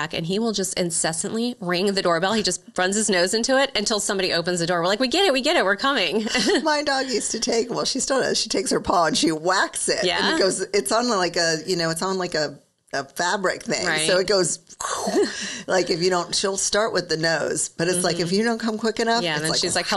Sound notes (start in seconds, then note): 6.3 chuckles; 14.6 imitates whooshing